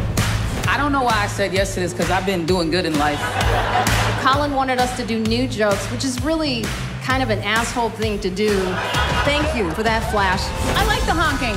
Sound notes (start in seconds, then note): 8.5 cars honking